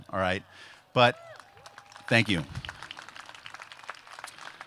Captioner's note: applause